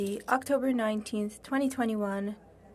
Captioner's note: speaking French